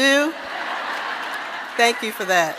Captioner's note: audience laughing